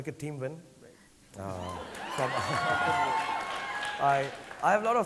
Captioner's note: audience cheering